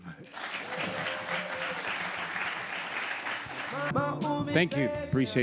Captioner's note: audience applauding